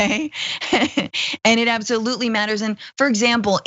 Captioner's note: laugh